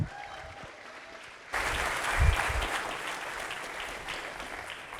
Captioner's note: audience applauding